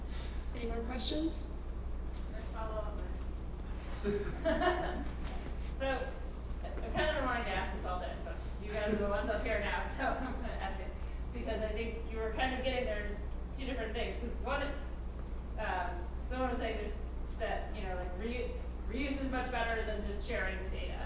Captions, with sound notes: >> Any more questions? >> Can I follow up, please? >> Sure. >> [LAUGH] so I kinda wanted to ask I saw that you guys are the ones up here now, so I'm gonna ask it. Because I think you were kind of getting there was two different things, cuz one, I just wanna say that reuse is much better than just sharing data.